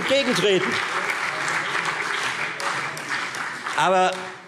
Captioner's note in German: Beifall Freie Demokraten, CDU, BÜNDNIS 90/DIE GRÜNEN und SPD